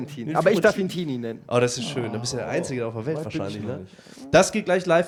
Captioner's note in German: stöhnt frohlockend